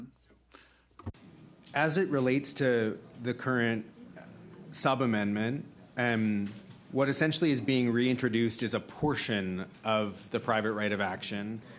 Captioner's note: speaking French